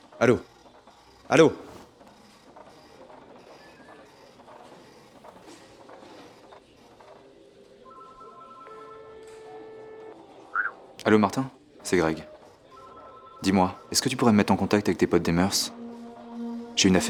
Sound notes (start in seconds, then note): 7.8 phone ring